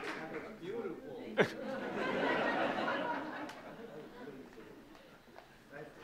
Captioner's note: laughing